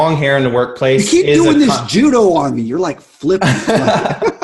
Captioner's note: laughs